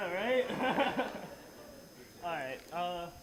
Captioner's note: laughing